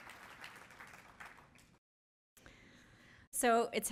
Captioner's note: applause